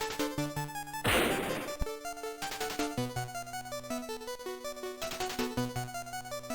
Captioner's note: slam